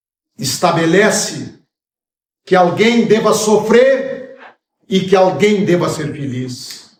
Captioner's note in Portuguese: limpando a garganta